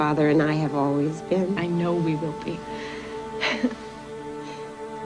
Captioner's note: sighs